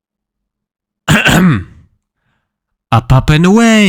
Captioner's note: coughing